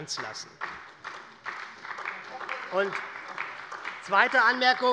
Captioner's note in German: Beifall bei der SPD